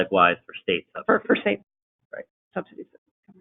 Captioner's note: audio warps